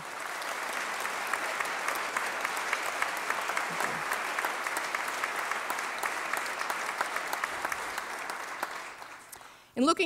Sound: applause

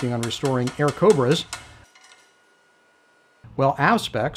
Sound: tapping

